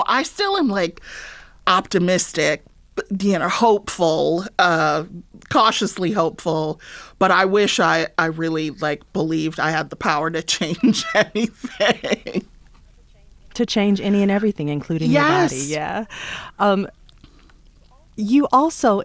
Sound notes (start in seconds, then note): 10.6 laughter